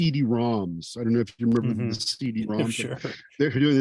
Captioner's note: chuckling